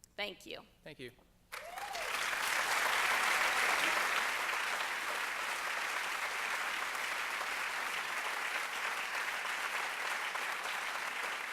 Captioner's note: applause